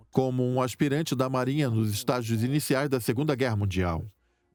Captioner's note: voiceover